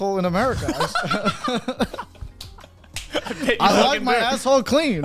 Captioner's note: all laughing